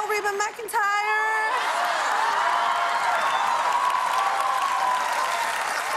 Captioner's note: cheers and applause